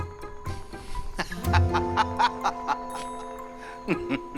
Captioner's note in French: rires